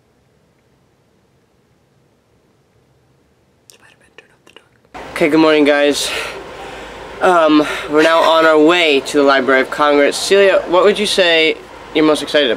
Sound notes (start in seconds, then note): 3.6 whispers